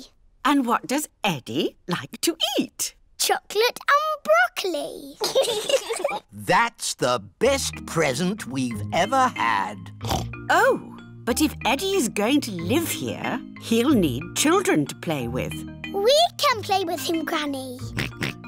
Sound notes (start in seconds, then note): 5.2 both giggle; 10.0 oinks; 17.9 oinks